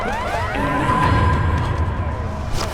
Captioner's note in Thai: เสียงกระซิบเรียกเอ็มเมด